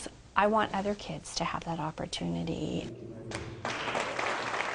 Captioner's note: applause